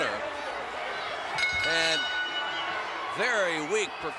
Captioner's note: bell rings